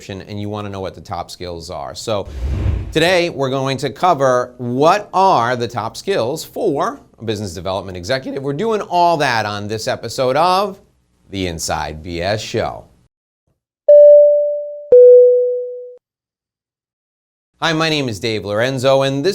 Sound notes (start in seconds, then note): 13.9 logo dings